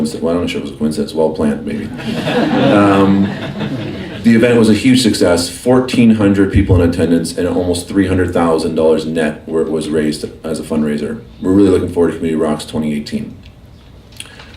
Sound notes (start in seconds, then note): 2.0 laughing